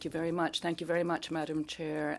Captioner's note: speaking French